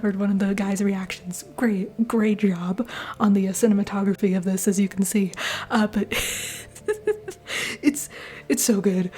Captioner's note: laughter